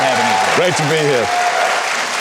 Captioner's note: audience clapping